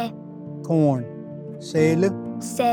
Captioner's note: repeats in Cherokee